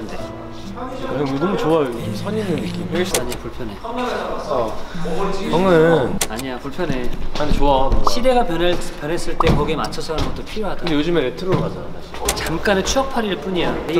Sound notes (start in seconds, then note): 4.8 sighing